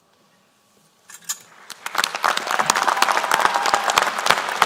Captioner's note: applause